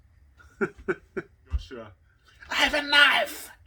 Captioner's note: laughs